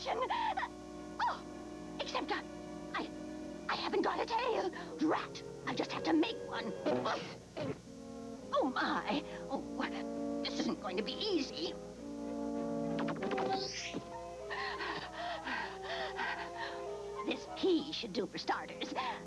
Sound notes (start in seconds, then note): 13.9 huffing